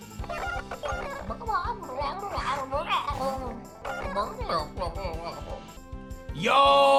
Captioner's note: chicken sounds